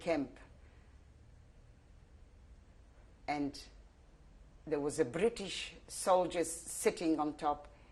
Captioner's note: pauses for 3 seconds